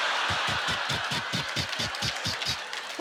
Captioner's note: audience laughter; imitating wheel clicking